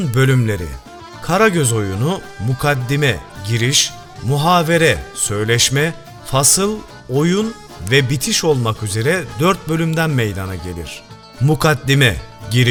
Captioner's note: conversation